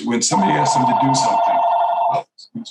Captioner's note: phone rings